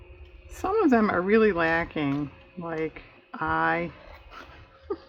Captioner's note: laughs